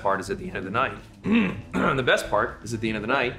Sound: clears throat

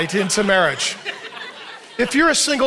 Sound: audience laughing

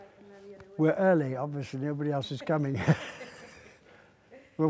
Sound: laughs

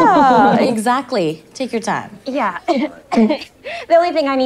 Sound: coughs

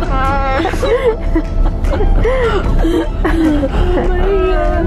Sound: laughing

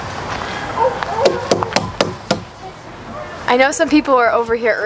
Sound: tapping on slide

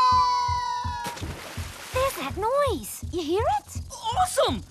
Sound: thumping

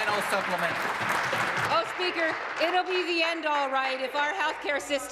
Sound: applause

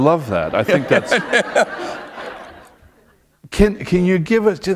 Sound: laughter

